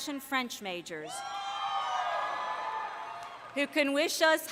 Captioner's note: cheering